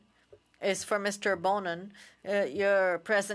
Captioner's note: speaking French